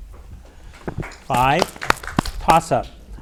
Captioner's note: audience applauds